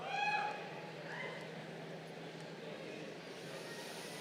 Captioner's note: crowd cheering